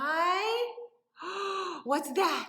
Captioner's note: gasps